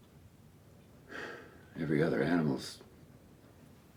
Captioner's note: sighs